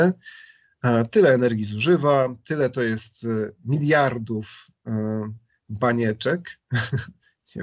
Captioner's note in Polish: śmiech